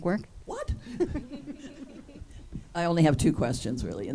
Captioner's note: group laughs